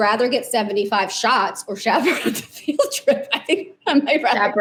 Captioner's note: chuckles